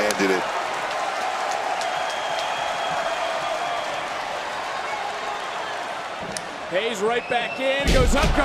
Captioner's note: crowd cheers